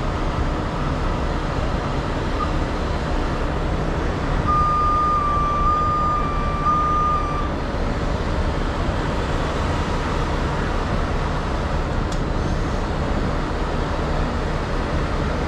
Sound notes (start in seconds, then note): 4.3 motor rumbling